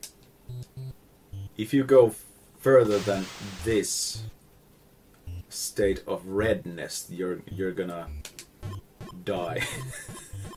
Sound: heh

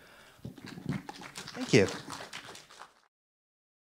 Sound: audience claps

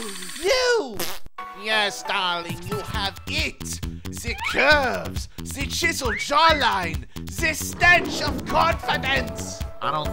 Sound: fake accent

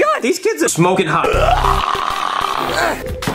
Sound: snarling

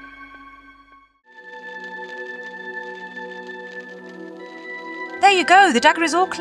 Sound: fire noises

